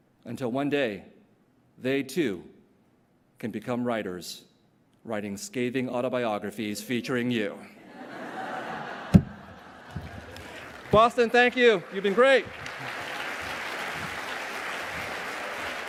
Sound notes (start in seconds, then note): 7.8 laughter; 12.6 applause